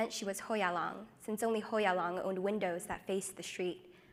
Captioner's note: speaks foreign language